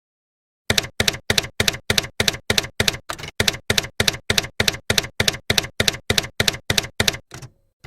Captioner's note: typewriter keys clacking